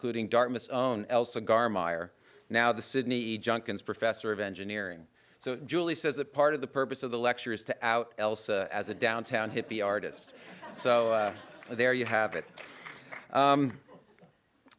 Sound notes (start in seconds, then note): 10.7 audience laughter